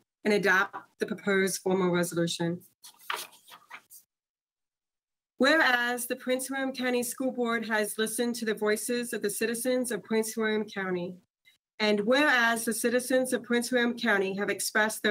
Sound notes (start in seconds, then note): 2.8 page shuffles